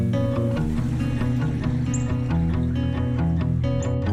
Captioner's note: stream running